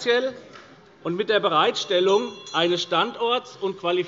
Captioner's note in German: Unruhe - Glockenzeichen des Präsidenten